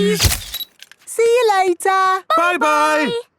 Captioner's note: camera click